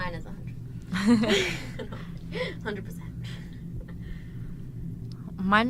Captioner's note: laughter